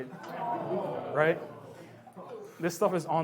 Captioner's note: audience groans